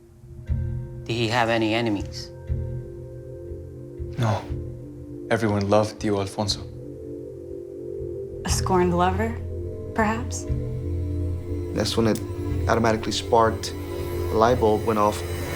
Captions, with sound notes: - Did he have any enemies? - No, everyone loved (speaking Spanish) Alfonso. - A scorned lover perhaps? - That's when it automatically sparked, a light bulb went off.